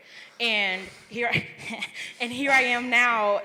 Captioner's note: laughs